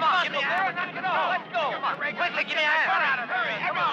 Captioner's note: all shouting